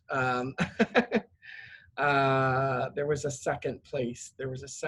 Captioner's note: laugh